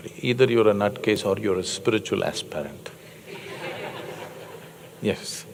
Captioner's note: laughter